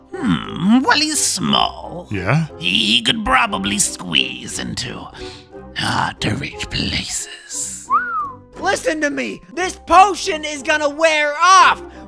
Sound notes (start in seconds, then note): 5.1 breathes; 7.8 whistles